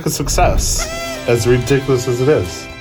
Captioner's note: party horn sound